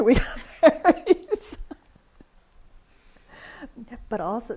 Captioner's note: laughs